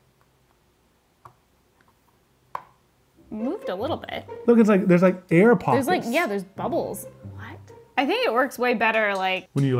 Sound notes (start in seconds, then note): 2.2 plate clicks; 3.2 playful music